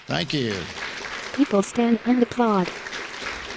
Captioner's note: applause